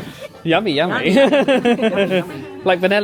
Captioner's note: laughing